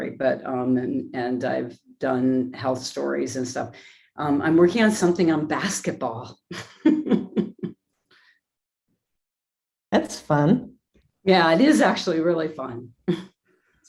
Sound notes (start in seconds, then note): 7.5 laughs